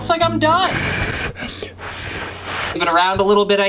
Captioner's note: blowing